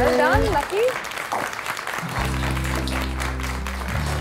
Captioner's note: Clapping